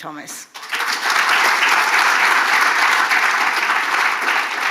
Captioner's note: audience applauding